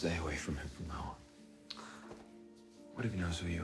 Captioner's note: Marie sighs